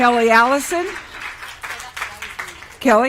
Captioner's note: applause